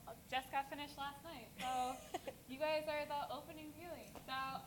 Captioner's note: laugh